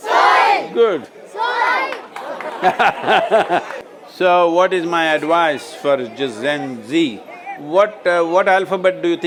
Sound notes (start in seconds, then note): 2.6 Sadhguru laughs